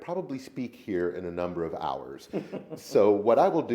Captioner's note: laughs